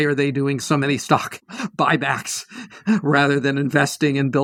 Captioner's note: laugh